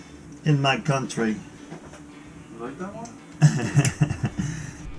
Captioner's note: laughs